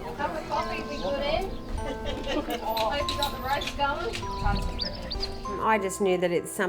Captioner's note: background Conversation